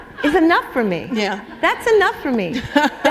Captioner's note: laughter